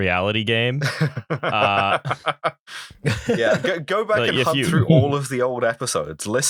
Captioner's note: laughter